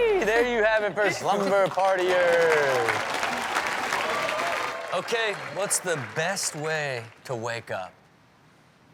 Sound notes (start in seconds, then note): 1.8 audience cheers